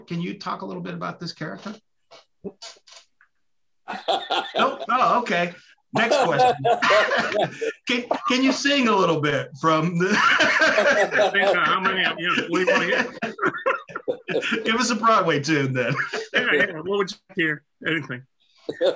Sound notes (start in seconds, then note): 10.0 laughing